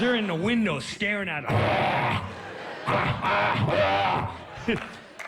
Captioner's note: growls and grunts